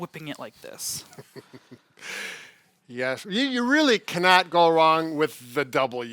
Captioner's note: chuckles